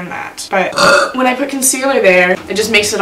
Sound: burps

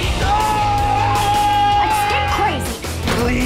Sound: screaming

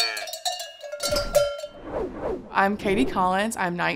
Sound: cow mooing; bottles rattling

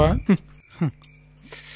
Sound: both sighing

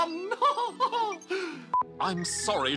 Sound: laughs

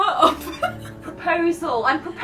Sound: laughs

